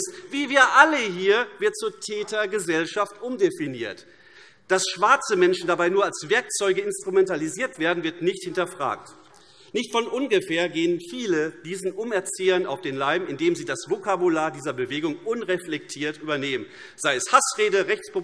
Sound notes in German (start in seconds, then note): none